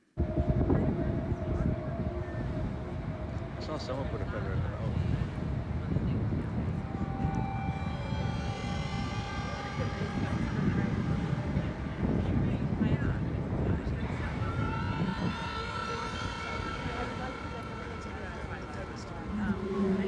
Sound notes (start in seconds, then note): 0.3 ominous music; 0.3 people chattering; 5.9 observer faintly speaking; 14.5 people chattering; 14.5 tense music